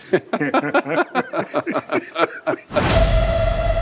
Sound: laughs

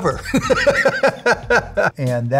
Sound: laughing

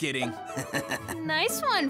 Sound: chuckling

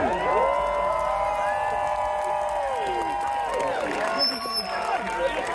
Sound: cheering

